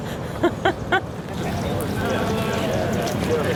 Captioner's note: laughs